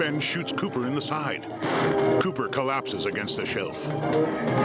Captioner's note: dramatic music swelling; gunshot